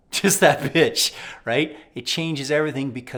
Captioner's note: laughing